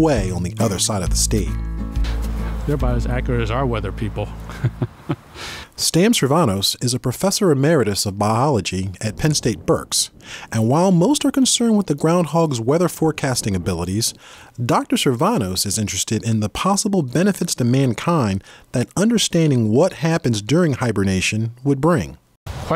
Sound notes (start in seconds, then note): 4.4 laughs